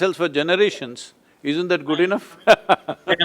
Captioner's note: laughs